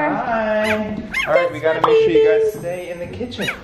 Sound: dog barking

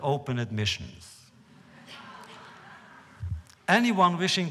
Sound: laughter

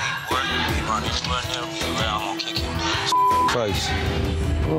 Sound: beep

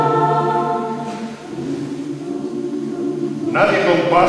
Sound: hum, mouth closed

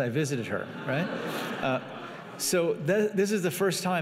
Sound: laughing

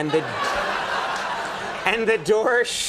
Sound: laughter

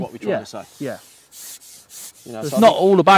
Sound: fishing pole whirs

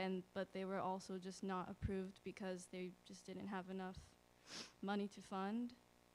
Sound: sniffle

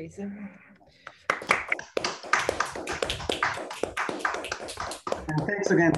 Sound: applause

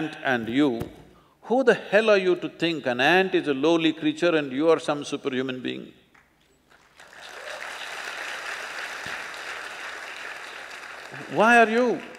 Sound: applause

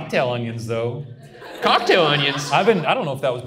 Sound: audience laughs

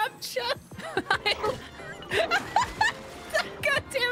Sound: laughter

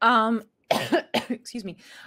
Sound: coughs

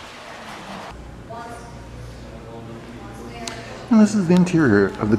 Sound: people chattering

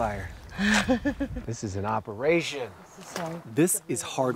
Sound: chuckling

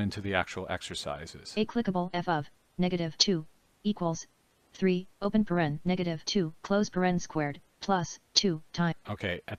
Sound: synthesized speech

